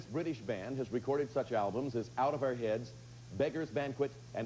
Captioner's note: none